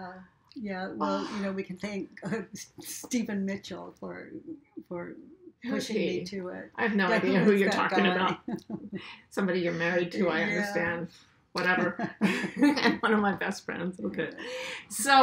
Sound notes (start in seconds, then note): 11.6 laughs